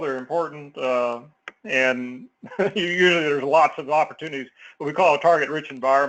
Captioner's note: laugh